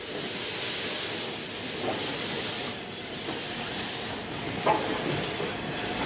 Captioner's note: train arrives